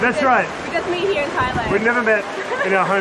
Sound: laughing

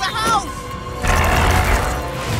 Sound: growls

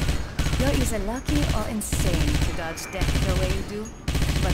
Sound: loud gunfire

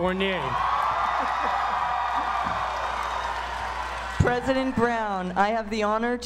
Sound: applause

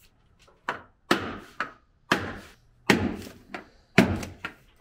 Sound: hammer pounding

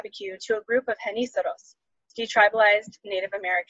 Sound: speaks Spanish

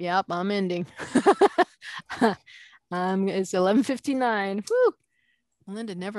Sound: laughing

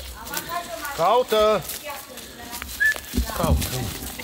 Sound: speaking Romanian

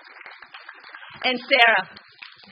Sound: applause

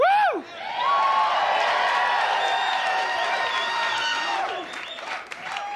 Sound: audience cheers and applauds

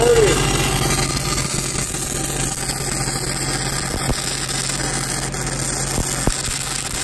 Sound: engine rumbling; spark buzzing

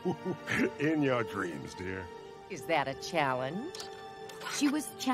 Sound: laughing

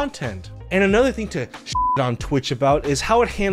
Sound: beep

